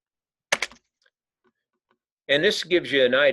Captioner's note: keyboard clicking